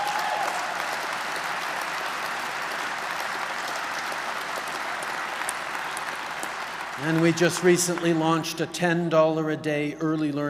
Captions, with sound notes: (Applause.) And we just recently launched a $10 a day early learning